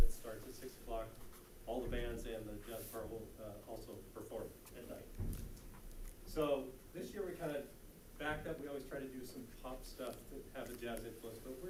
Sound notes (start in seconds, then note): none